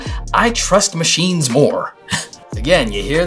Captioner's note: laughs